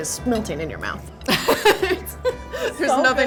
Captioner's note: laughter